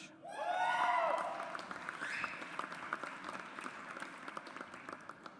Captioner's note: audience applauds